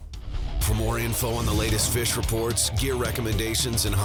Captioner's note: voiceover